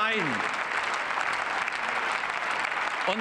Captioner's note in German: Beifall